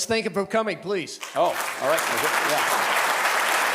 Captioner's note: audience applauding